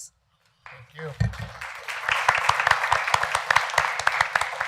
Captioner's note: applause